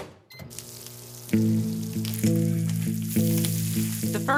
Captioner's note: microwave beeps; sizzling sausage